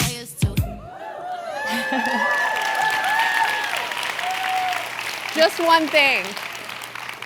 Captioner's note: applause